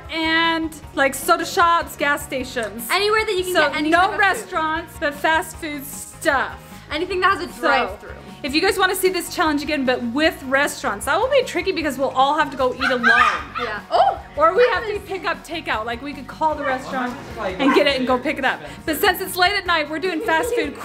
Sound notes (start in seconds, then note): 12.7 squawking in background